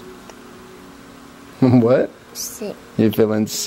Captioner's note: soft chuckle